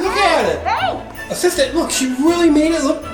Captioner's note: jangle